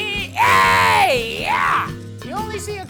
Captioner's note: screams